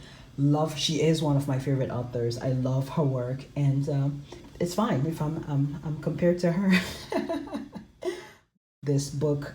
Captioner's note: chuckles